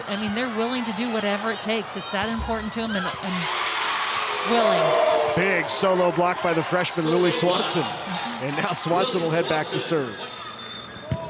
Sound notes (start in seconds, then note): 3.7 audience cheering